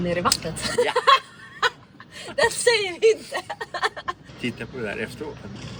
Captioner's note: laughs